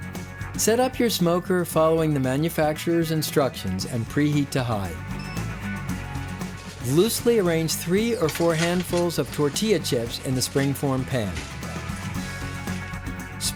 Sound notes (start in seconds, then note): 5.1 beeps